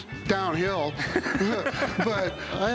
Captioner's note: laughs